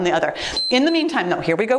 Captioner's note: timer beeps